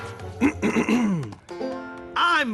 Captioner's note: ahem